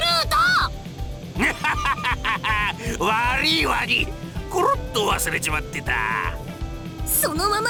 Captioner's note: laugh